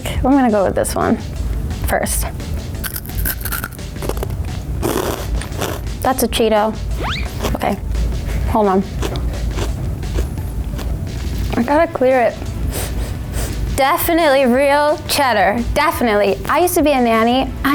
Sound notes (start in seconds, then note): 2.8 crunches; 12.6 sniffs